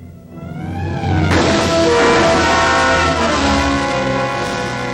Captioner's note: gun shot